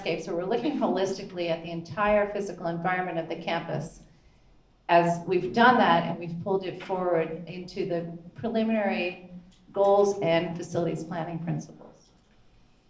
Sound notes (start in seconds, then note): none